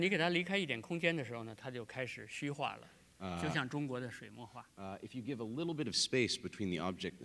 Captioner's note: speaking in Chinese